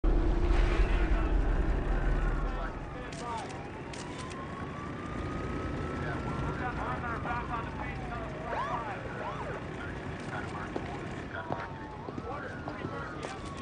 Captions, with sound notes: (sirens wailing) (camera shutter clicking) (helicopter blades whirring) (man, amplified voice) MOVTHE AT PERIMETER BACK ON THE BEACH ANOTHER 4 OR 5. (siren whoops)